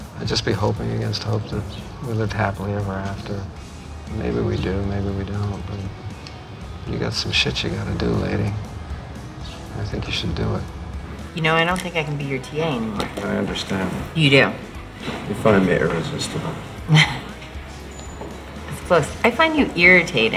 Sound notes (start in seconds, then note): 16.6 scoffing